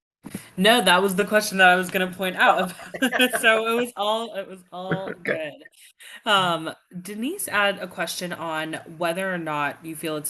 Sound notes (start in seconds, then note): 2.5 laughing; 5.7 laughs